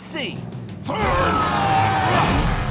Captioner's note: grunting